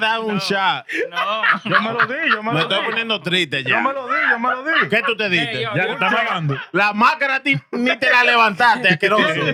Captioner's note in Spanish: Hablando en idioma extranjero; Riendo; Hablando en idioma extranjero